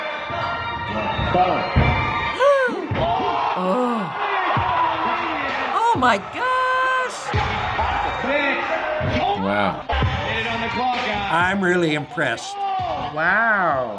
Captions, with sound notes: - (gasping) - (spectators cheering) - Oh! Oh, my gosh! - Wow. - I'm really impressed. - Wow.